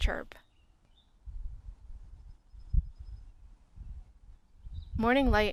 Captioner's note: bird chirp sounds